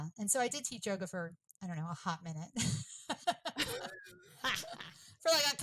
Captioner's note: laughs